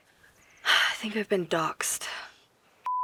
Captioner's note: sighs